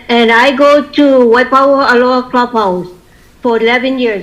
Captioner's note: hawaiian dialect